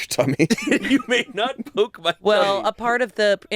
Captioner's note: laughs